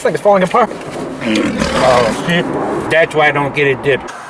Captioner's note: lion roaring